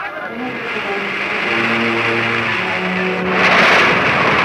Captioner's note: people panicking; rushing water